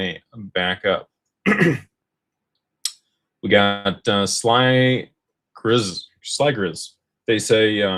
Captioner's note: clears throat